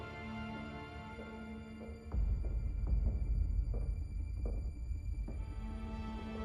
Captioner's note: dark orchestral music; footsteps clack